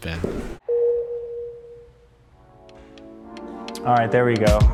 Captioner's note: bell dings